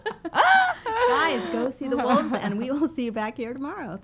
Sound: laughs

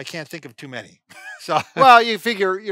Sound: laughing

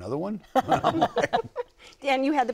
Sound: laughter

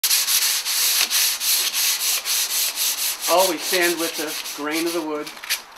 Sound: sandpaper

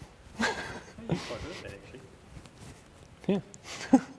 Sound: laughter

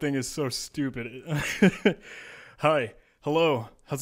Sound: laughing

